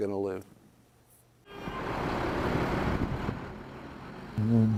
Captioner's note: traffic noise